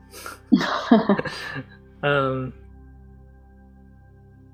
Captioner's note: laugh